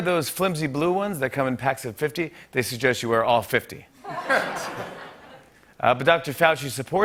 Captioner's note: light laughter